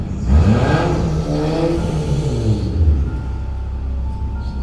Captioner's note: car engine revving